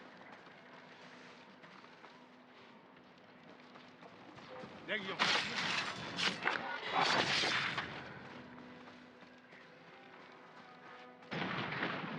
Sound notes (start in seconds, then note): none